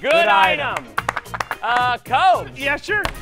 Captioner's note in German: applaus